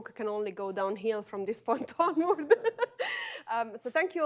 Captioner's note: laughs